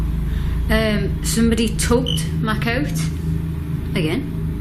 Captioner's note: metre beeping